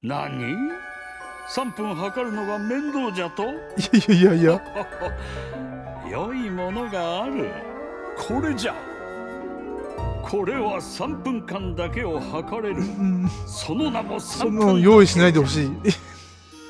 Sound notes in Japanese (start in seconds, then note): 3.7 笑い; 15.6 笑い